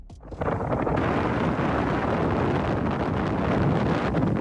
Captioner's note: wind roaring